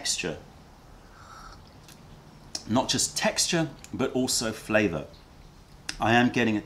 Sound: sips tea

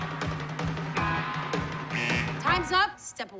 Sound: buzzing

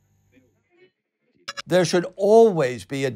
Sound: digital blip

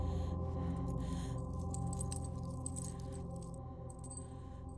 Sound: light dramatic music; chain rattling

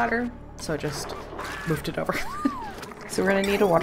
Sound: laughs

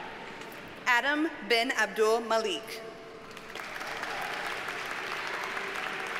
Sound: audience cheers and applauds

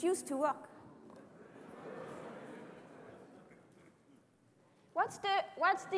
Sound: laughter

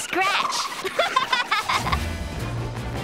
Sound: laughing

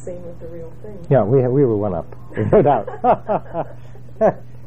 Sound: laugh

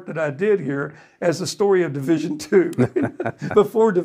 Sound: laughs

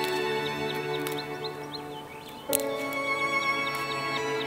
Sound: birds singing

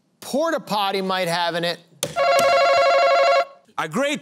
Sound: buzzer

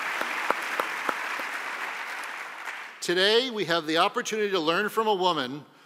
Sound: applause

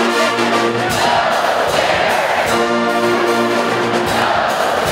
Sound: crowd cheering

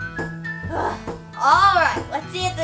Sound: assistant groans

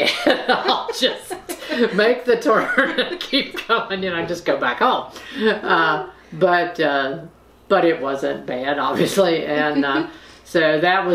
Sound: laughter

